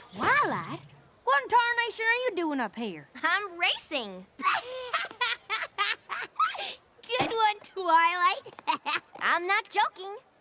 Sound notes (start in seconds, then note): 5.1 laughing